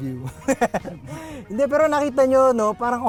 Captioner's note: laughs